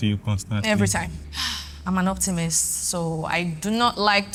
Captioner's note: sighs